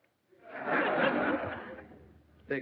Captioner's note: laughter